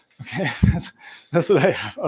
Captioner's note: laughs